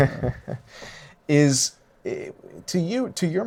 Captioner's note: laughs